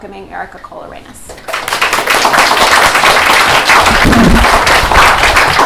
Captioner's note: applause